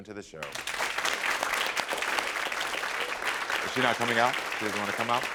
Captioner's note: audience applaud